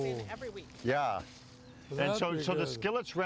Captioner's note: none